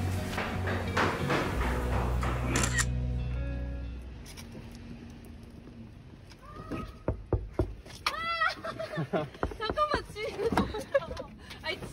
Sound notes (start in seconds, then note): 7.0 knock, Knock, Knock